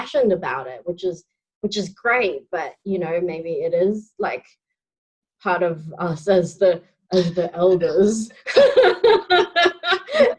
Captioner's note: laughing